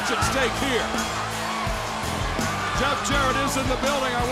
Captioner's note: crowd cheering